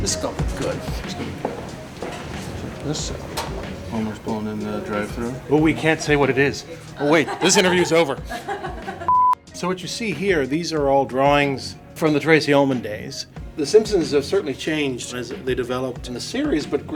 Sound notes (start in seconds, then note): 9.0 beep